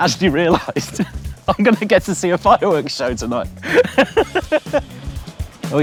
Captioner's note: chuckling; laughs